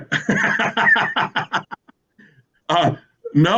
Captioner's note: laughs